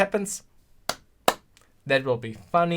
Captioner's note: clap